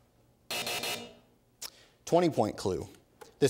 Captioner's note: buzzer